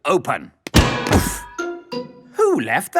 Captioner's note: thuds